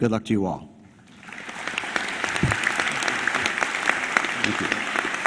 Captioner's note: applause